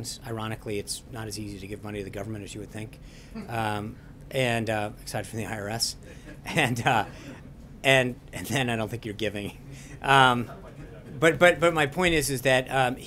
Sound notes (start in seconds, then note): 6.0 laughter